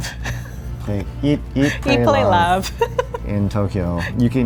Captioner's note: laughing